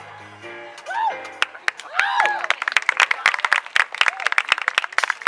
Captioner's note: cheering